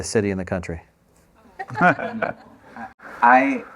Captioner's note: laughter